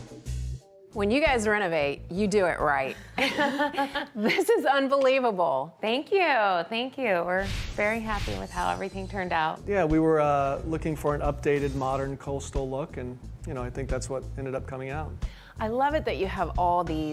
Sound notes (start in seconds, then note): 3.1 laughing